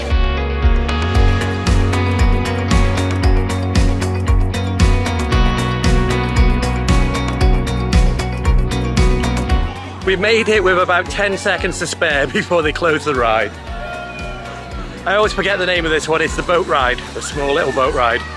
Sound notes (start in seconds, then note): 0.2 gentle upbeat music; 13.7 people cheering